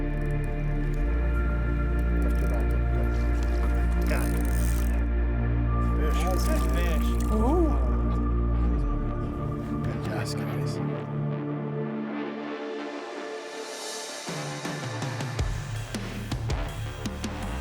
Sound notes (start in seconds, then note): 4.9 reel clicking; 14.8 upbeat music